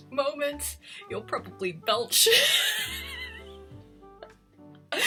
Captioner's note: laughs